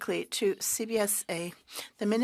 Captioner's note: speaking French